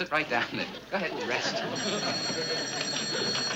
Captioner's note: phone ringing